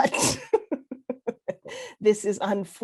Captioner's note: laughs